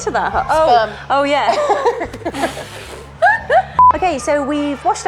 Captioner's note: laughing